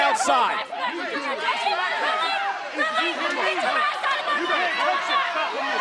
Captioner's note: arguing and yelling